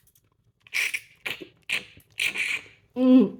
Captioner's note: slurping